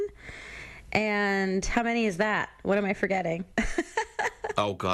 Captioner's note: laughs